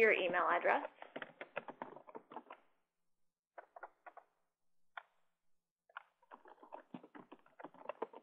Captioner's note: typing Sounds